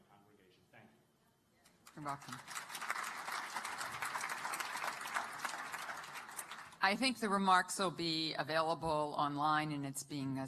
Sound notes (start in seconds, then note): 1.8 applause